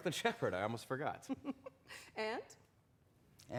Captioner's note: chuckles